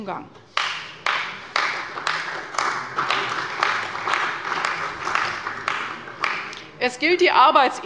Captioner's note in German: Beifall bei der CDU und dem BÜNDNIS 90/DIE GRÜNEN